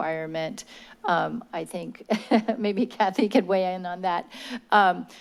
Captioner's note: laugh